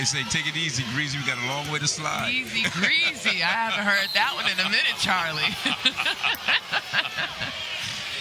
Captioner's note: laughter